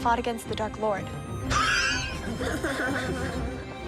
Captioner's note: chuckles